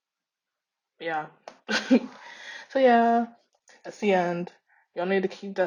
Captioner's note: laughs